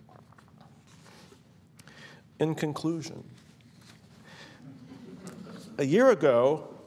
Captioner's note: laughter